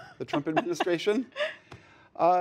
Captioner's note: laughter